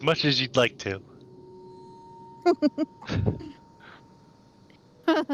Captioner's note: laughs